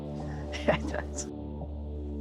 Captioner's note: laughs